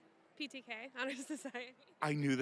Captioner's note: laughing